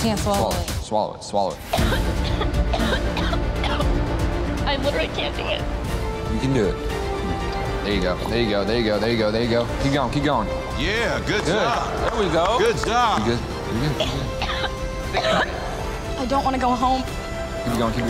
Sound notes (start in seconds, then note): 1.6 coughing; 2.2 dramatic music; 10.8 hands clapping; 13.7 coughing